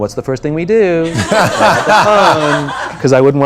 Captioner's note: laughter